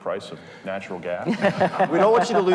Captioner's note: group laughing